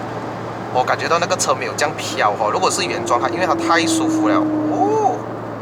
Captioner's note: the sound of the brakes is very nice